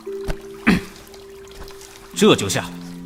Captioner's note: clears his throat